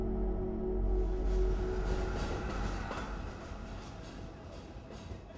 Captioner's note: train wheels rolling